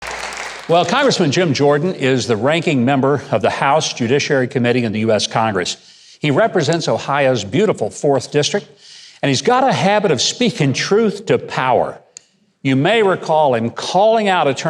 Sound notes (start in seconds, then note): 0.0 audience applauding